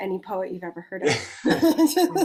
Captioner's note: laughs